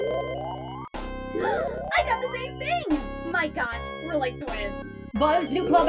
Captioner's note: happy gasp